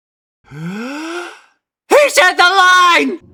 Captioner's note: inhale